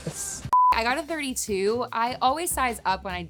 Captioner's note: electronic beeping